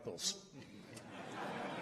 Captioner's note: laughter